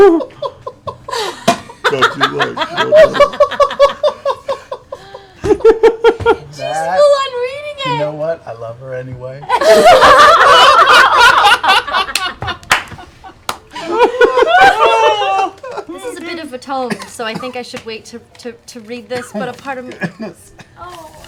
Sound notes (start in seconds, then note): 9.4 laughter